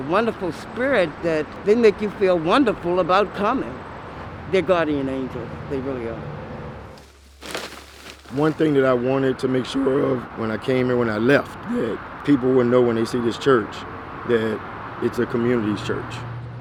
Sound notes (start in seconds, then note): 7.0 bags rustling